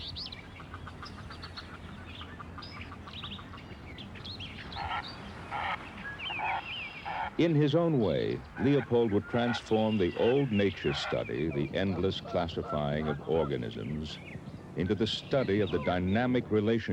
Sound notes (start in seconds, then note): 0.3 ducks quacking; 4.7 bird honking